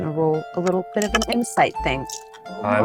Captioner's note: dice clattering